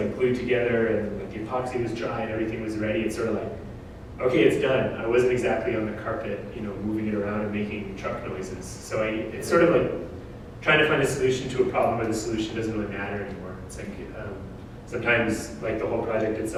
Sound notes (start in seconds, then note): none